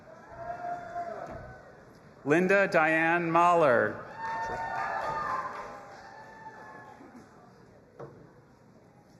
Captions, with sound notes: (audience applauding and cheering) Linda Diane Mahler. (audience applauding and cheering)